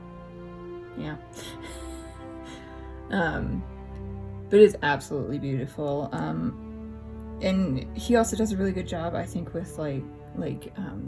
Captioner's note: laughs